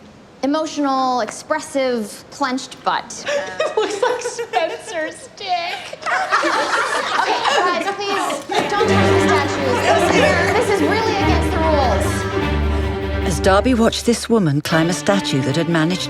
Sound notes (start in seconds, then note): 3.2 laughing; 5.6 laughter; 13.2 dramatic classical music